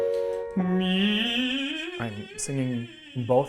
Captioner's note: piano rings; vocalizes